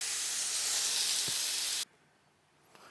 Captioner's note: sizzling sound